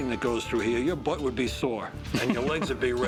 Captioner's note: laughs